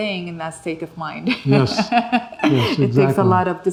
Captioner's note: she laughs